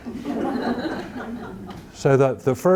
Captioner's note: audience laughing